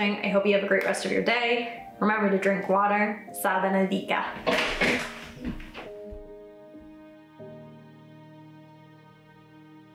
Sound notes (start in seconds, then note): 4.3 chair creaks; 6.3 gentle music